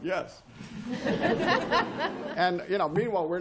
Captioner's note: laughter